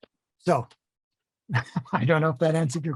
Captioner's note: laughter